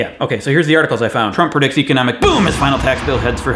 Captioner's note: explosion noise